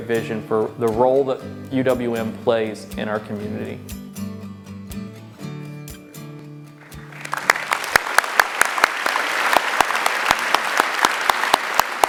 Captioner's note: applause